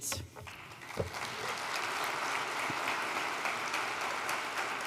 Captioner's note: applause